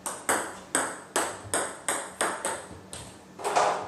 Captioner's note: balls ping pong hitting